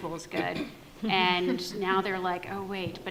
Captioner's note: panel laughs